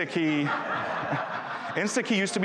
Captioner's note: audience laughing